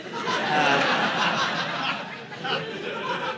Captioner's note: audience laughing